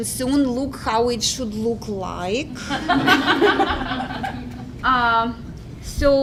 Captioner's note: laugh